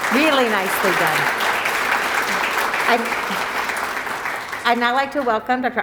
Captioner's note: applause